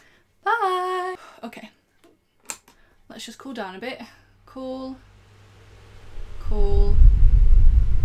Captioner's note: fan sounds